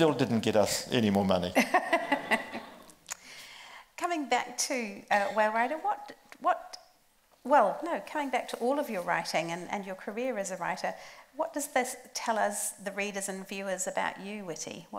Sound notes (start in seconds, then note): 1.6 group laughs